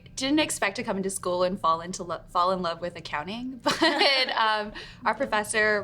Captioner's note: laughs